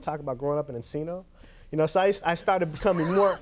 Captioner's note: Conan laughs